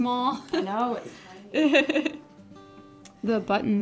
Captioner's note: chuckles